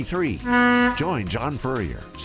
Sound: ship horn blares

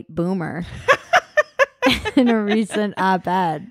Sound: laughs

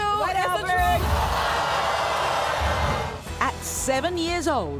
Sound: yelling

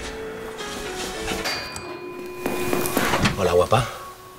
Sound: footsteps in a hurry

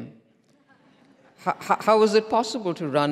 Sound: audience laughs

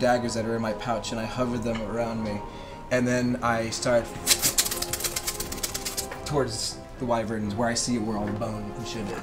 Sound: stabbing noises

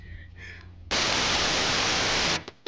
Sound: TV static; electronic music

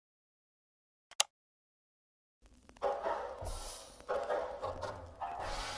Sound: camera clicking; smooth music

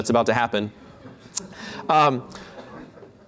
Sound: laughter

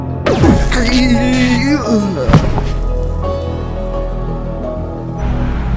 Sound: trembles and falls

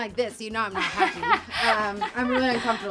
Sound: laughing

